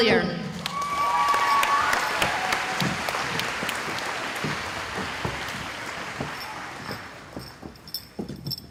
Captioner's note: cheering